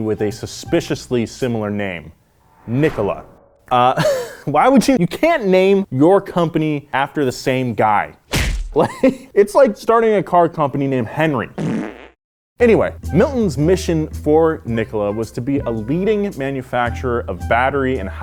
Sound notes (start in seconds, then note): 4.0 laughing; 8.7 laughing